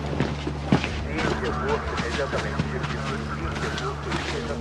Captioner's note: police radio chatter